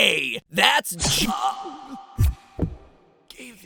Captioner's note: slash of blade